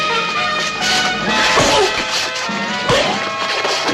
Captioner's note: grunts